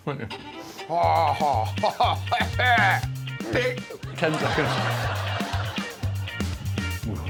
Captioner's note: Guz groans and retches